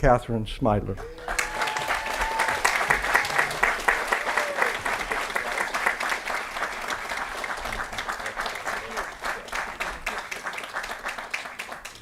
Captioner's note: applause & Cheering